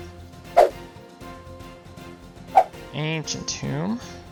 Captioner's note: card whipping sound